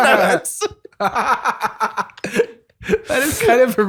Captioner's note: laughter